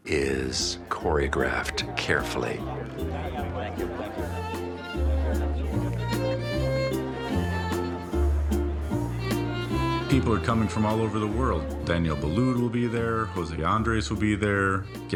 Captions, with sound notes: is choreographed carefully. (guests chattering) Yeah, yeah, thank you, thank you. (uplifting music) >>People are coming from all over the world. Daniel Boulud will be there, Jose Andres will be there.